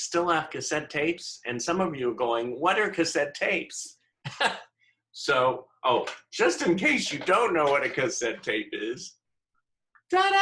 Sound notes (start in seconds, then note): 4.2 laughter